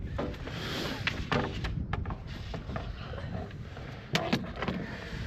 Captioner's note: footsteps